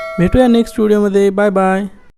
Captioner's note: bell